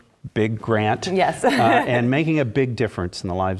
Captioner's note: laugh